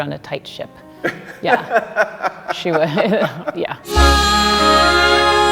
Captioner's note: laughing